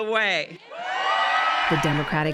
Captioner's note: cheering and applause